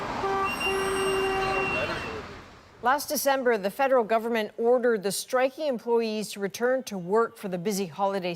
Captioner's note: honking